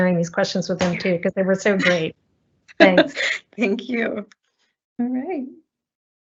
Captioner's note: laughs